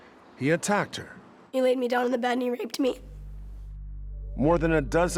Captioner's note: voice breaking